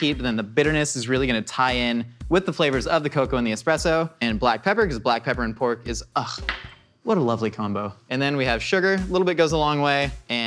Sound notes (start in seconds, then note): 6.7 sighs